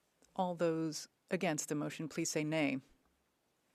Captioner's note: speaking French